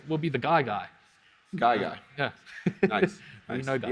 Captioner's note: laughs